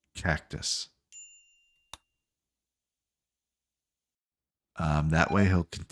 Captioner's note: silence